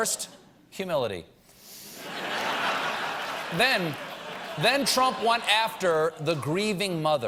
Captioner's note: laughter